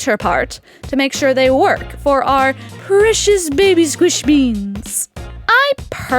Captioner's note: cutesy wootsy voice